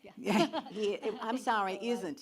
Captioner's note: laughs